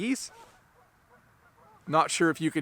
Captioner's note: geese honking